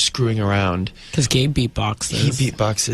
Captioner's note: laughs